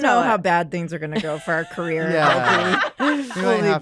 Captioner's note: laughter